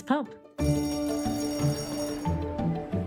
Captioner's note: bright music; bell ringing; bright music; people chattering